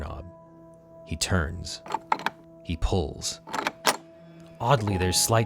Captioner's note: doorknob rattles